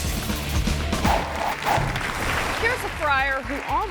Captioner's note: audience applause